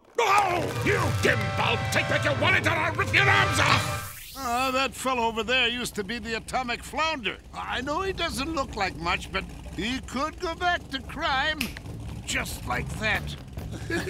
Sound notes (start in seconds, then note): 11.6 snapping; 13.6 laughing